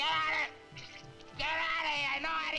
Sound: food sloshing

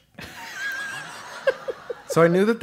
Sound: laugh

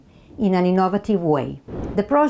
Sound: slide whooshes

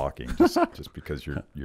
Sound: laughs

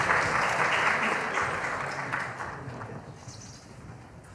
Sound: laughter

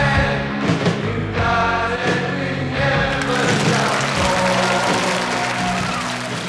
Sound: crow claps and cheers

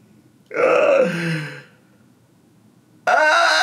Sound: laughs

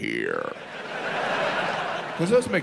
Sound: audience laughs

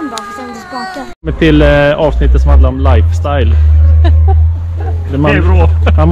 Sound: laughs

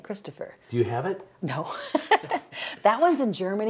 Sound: laughing

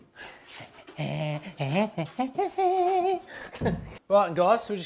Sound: humming and laughing

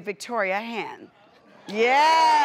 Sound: audience claps

